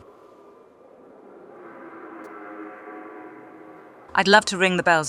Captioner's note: horn from distance ♫